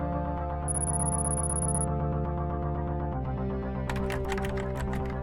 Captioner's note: computer bleeps rapidly; keyboard clacks